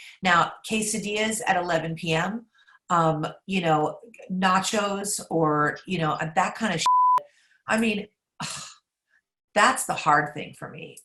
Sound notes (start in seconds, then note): 6.8 beep